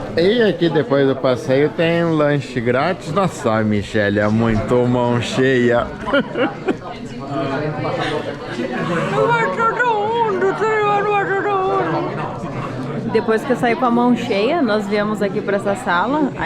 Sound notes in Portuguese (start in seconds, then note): 5.9 risos